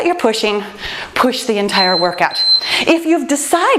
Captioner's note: timer beeps